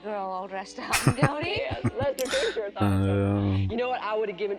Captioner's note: chuckling